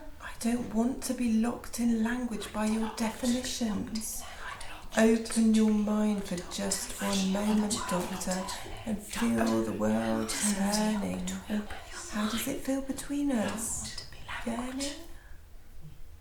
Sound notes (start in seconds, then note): 9.5 whispering voices